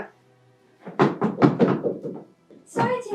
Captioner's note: knocking